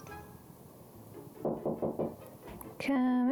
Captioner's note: knock at door